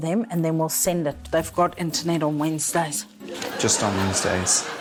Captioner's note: laughter